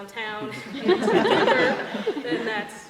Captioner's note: laughter